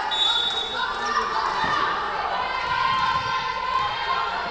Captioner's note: whistle blowing